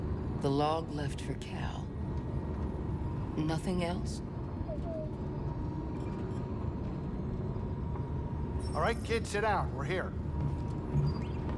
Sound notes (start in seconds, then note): 4.7 dejected boop